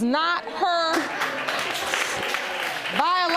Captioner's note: audience applauding